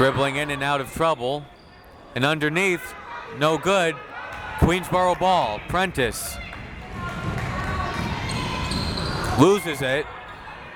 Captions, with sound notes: Dribbling in and out of trouble, and underneath, no good. Queensborough ball. Prentice. (crowd members shouting) Loses it.